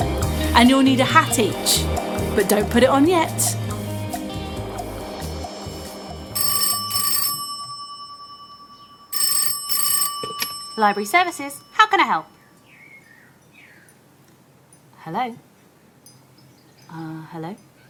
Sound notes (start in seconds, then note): 4.0 theme tune; 6.3 phone ringing